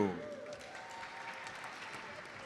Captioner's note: audience applauds